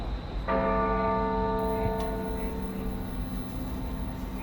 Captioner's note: bells toll